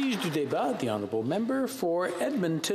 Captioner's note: applause